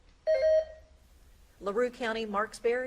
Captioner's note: beep buzzing